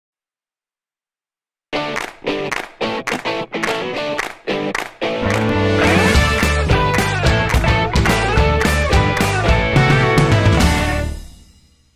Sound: applause

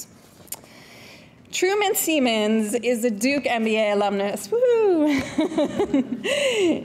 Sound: chuckles

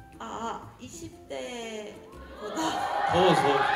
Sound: gasp~

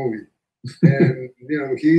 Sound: laughs

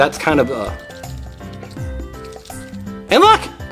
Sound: water sloshing

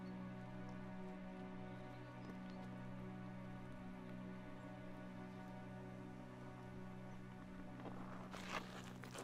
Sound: footsteps

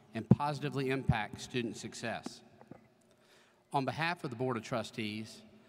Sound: none

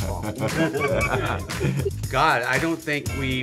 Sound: group laughing

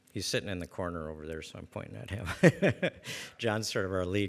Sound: laughs

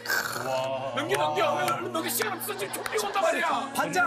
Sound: soulless applause

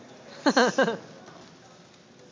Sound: laughing

